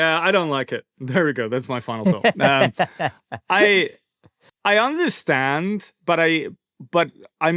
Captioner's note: laughter